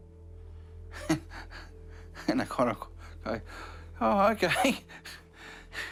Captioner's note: laughs